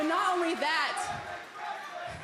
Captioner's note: crowd cheering